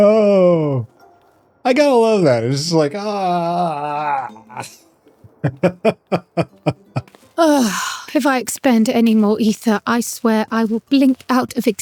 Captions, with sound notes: Oh! I gotta love that! It's just like, "Ahhh!" [Laughter] If I expend any more ether, I swear I will blink out of